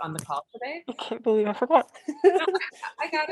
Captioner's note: laughs